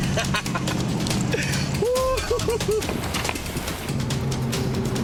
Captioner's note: laughing and whooping